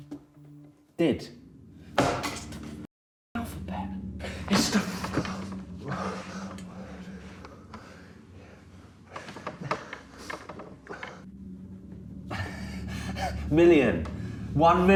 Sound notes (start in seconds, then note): 5.7 heavy breathing; 6.3 ominous music